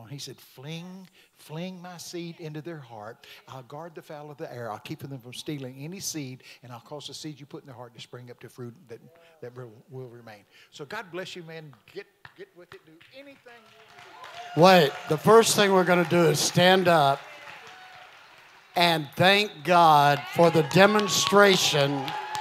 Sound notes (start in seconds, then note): 14.1 congregation cheering